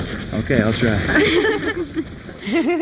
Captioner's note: girls laughing